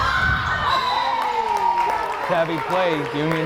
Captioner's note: whistle blares